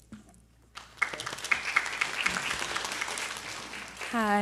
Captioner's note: audience applauds